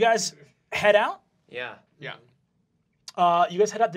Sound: group agreeing

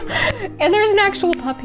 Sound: laughs

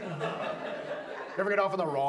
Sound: audience laughs

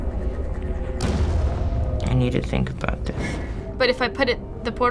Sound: pulsating hum; explosion

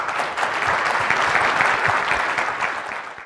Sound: applause

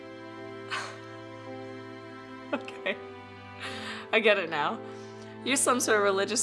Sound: scoffs

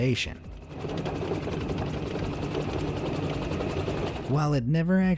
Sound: helicopter whirring

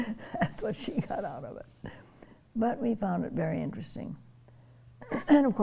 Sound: laughing

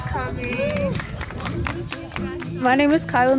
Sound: people applauding

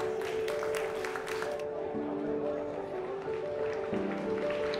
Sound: applause

